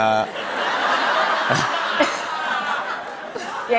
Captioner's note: laughter